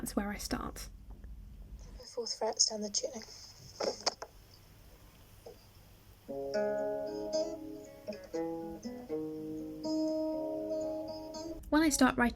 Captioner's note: recording plays